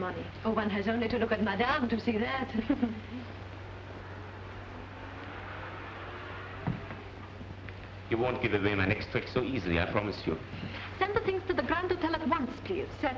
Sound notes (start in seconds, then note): 2.5 chuckles; 4.5 traffic humming